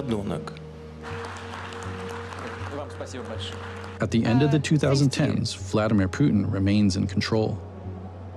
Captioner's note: applauding